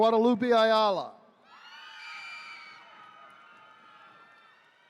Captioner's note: attendees cheering